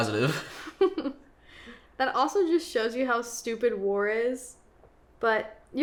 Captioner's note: laughs